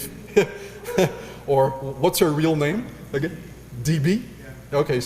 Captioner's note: laugh